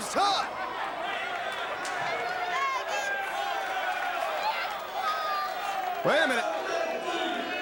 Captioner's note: crowd chatter